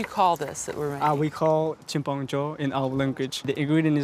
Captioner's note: speaks in foreign language